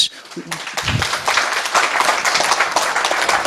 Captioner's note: applause